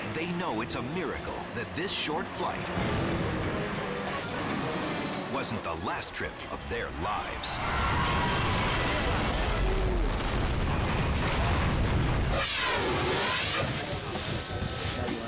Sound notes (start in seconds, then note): 7.8 jet explodes